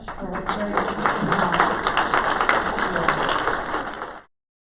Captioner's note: clapping